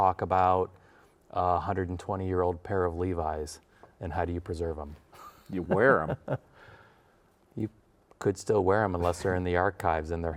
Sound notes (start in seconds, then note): 5.2 laughs